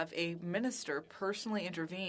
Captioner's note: speaking French